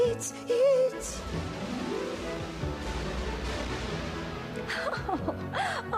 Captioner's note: kaboom!